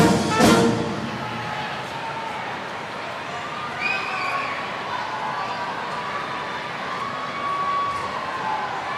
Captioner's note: applause